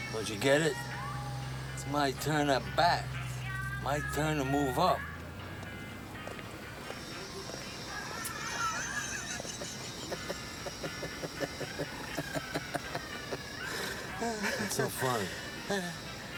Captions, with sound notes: Don't you get it? It's my turn at bat! My turn to move up. [ Laughing ] What's so funny?